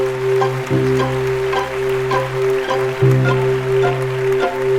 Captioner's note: audience applauding; gentle music